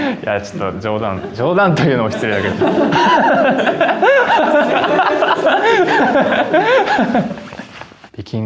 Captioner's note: laughs